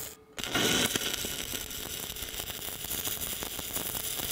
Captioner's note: low crackling